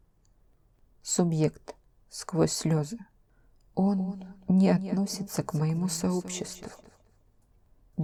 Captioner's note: tearfully